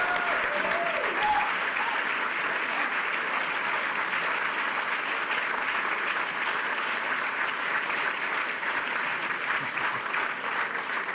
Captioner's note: cheers and applause